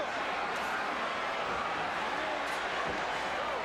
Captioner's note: crowd chattering